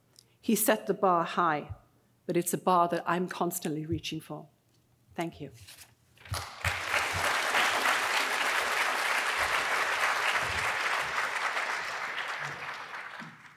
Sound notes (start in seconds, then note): 6.3 audience applauds